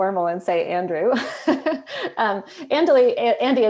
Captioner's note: laughs